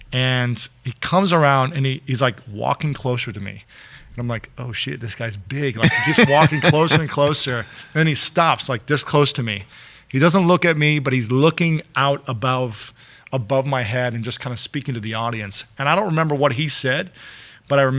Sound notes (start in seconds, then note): 5.8 laughs